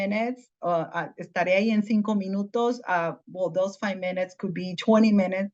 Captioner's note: in Spanish